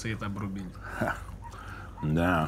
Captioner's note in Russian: хмыкает